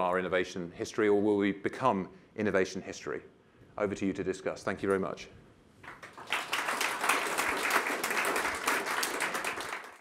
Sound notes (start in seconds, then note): 5.8 applause